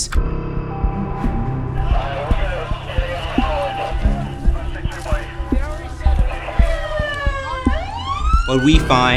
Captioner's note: Police 3 on radio, siren wailing